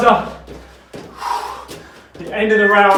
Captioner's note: exhales sharply